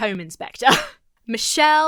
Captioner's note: laughs